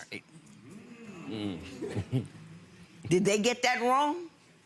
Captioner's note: audience murmurs